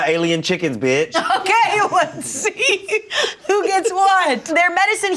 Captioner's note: laughs